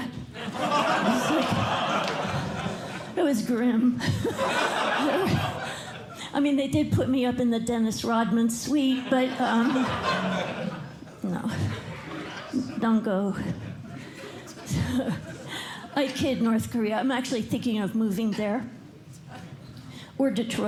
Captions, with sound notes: [LAUGHTER] It was grim. I mean, they did put me up in the Dennis Rodman suite, but-- [LAUGHTER] don't go-- I kid North Korea. I'm actually thinking of moving there. Or Detroit.